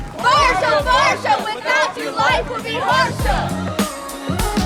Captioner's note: students chanting